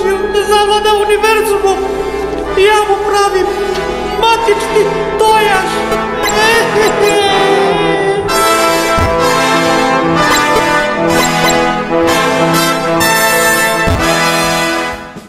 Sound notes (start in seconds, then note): 6.1 cries